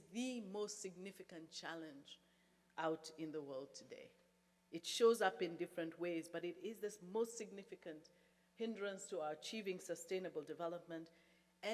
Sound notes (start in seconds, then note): none